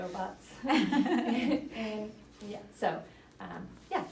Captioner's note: laughing